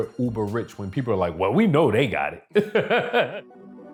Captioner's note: laughs